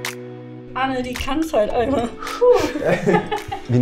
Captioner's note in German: lacht